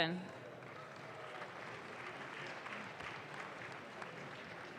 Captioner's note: audience claps